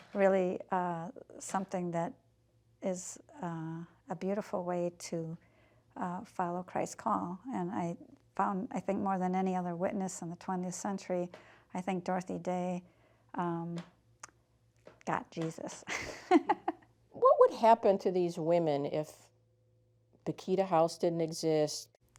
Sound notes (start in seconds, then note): 15.8 chuckling